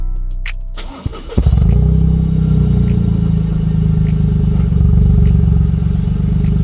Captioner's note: GR Corolla Starting up